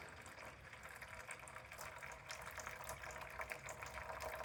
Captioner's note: water pouring